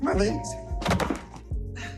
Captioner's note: bang